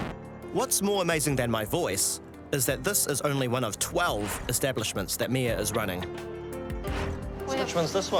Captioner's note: record scratches